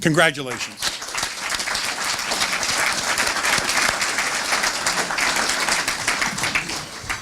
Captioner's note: applause